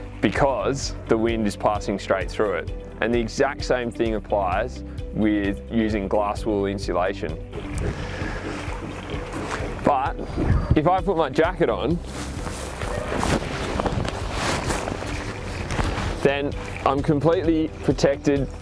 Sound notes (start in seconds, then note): 7.6 steps crunch; 11.8 jacket rustles